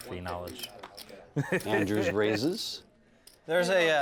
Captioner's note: laugh